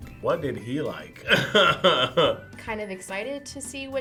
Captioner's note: laughs